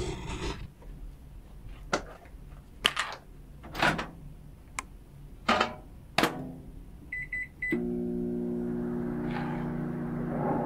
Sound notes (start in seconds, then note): 0.0 repeated growling; 3.6 microwave door opens, shuts; 6.6 buttons beeping